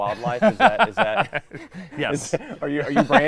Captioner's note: laughs